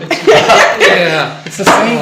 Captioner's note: laughing